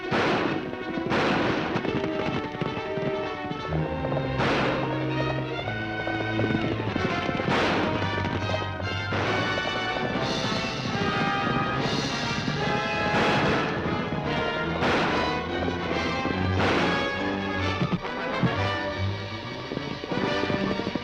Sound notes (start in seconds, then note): 0.0 guns firing; 2.7 upbeat dramatic music; 4.8 guns firing; 10.0 upbeat dramatic music; 13.3 guns firing; 18.1 dramatic music